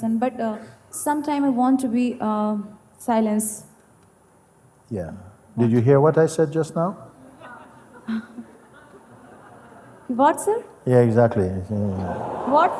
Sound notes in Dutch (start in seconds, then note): 7.4 gelach